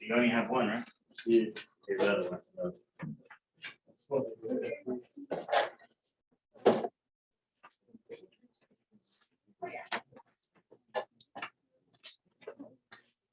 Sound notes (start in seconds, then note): 2.4 chatter